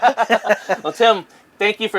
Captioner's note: laughs